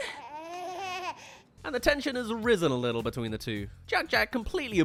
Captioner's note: laughs